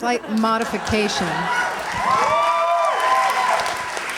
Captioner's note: cheers, applause